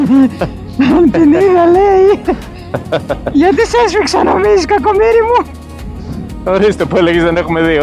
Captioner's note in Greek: γέλια